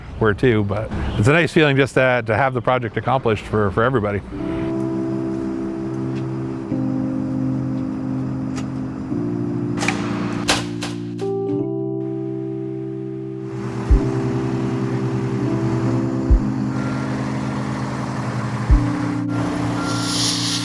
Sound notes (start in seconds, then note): 4.5 soft music; 10.7 lights clicking; 13.4 truck humming; 18.1 soft music